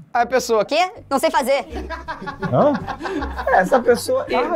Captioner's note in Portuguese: risadas